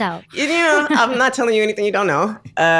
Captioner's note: laughter